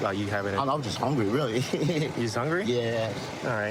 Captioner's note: laughing